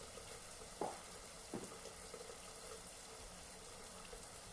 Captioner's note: faint knock